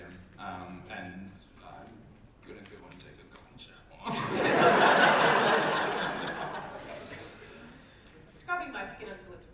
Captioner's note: audience laughter